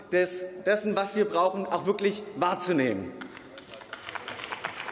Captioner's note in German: Beifall